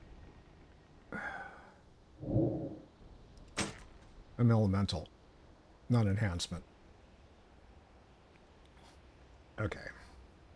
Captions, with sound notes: (sighs) I'm elemental, not enhancement. Okay.